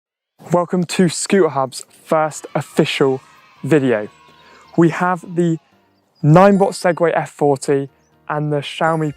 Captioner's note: cheers